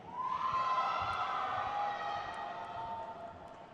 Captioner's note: crowd cheers